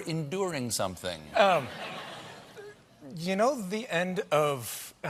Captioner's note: laughter